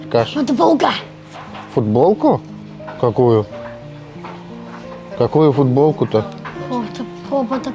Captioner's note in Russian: быстро говорит